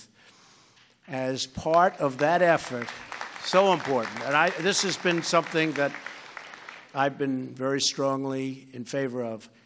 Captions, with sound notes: As part of that effort -- (Applause.) -- so important. And this has been something that I've been very strongly in favor of: